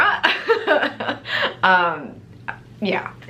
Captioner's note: laughs